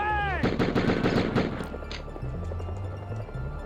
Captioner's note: rapid gun shots